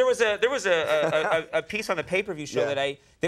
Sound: laughing

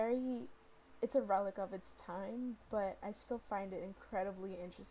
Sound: none

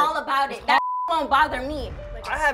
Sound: beep

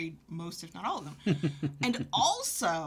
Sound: laughing

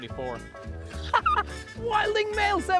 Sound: laughs

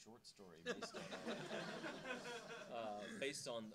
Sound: audience laughing

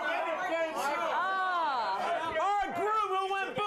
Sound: audience shouts answers

